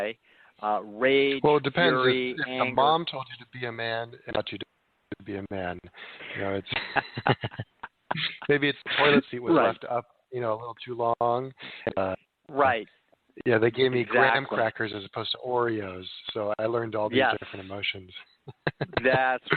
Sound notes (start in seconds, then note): 6.4 chuckling